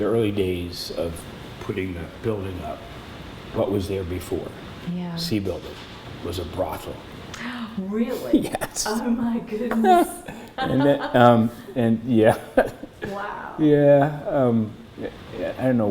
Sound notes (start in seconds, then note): 7.3 gasps; 9.7 laughter